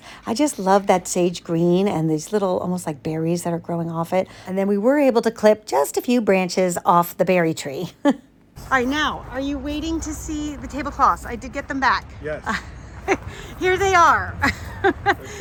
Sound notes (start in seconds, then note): 7.9 giggles; 12.2 laughs